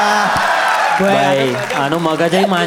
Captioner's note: crowd applauding